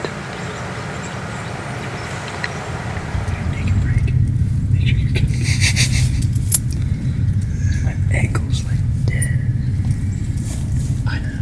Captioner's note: sound of light wind